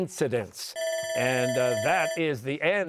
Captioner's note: bell ringing